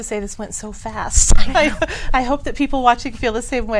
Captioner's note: woman laughs